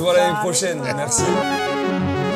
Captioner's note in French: rires